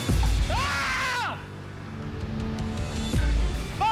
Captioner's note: screams